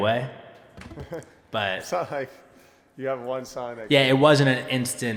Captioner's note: chuckling